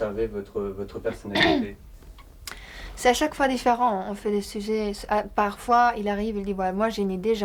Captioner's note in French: raclement de gorge